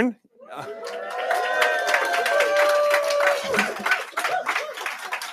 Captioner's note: cheering